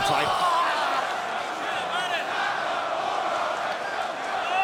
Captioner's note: audience chanting